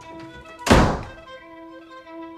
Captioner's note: door slams